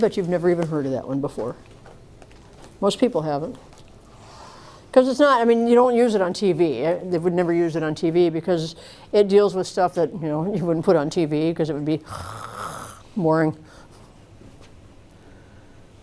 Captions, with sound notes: I'll bet you've never even heard of that one before. Most people haven't, because you don't use it on TV. They would never use it on TV, because it deals with stuff that you wouldn't put on TV because it would be [SNORES] boring.